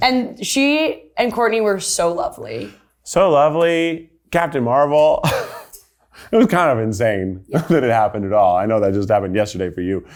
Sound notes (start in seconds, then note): 5.2 laughs happily